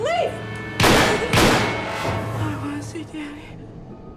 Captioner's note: gunfire pops